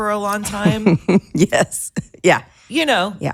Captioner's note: laughs